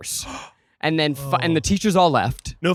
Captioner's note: gasping